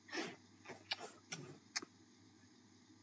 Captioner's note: Kisses